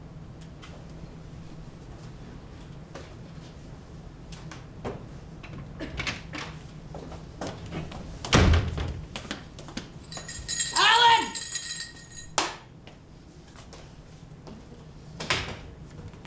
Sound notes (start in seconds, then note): 10.1 rings bell